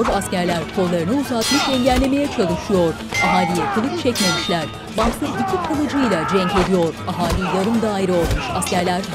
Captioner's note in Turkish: Müzik - Gerilim; Dövüş sesleri